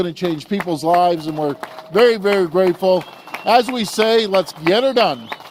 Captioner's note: applause